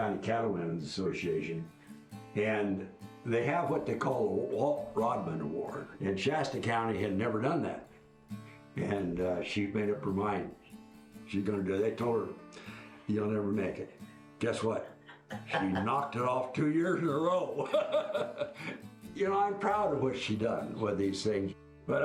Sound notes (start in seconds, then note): 17.4 laughs